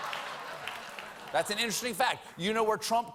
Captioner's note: laughter